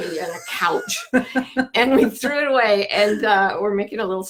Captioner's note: laughing